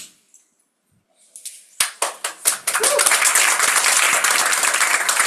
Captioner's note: crowd members clapping